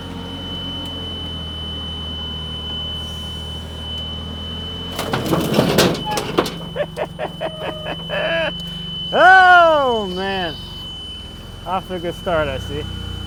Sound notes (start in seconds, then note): 4.9 metal crunching; 6.4 laughing